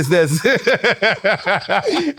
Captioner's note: laughs in panic